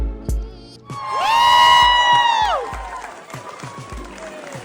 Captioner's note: crowd cheering and clapping